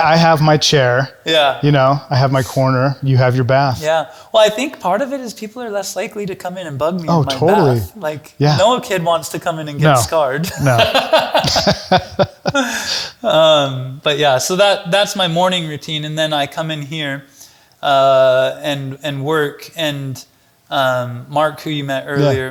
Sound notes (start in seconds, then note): 10.4 chuckles